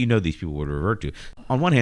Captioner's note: uh